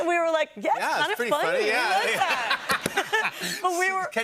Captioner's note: laughter